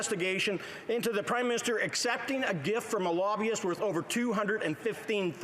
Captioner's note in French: voix de l'interprète